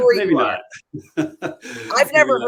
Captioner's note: laughter